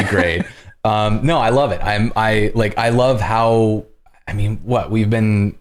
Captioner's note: laughter